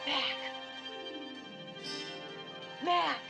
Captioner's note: fısıldayan